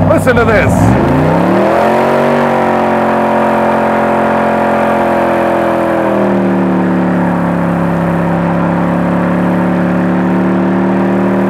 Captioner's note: engine roaring